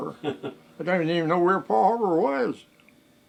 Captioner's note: interviewer laughs